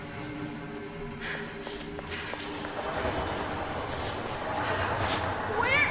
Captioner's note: Julie panting; footsteps tapping